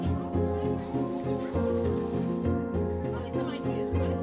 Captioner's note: machine whirs